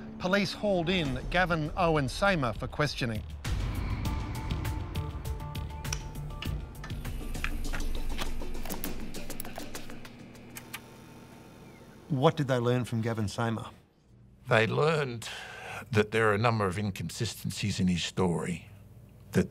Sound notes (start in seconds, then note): 5.0 lights buzz; 10.7 tape whirs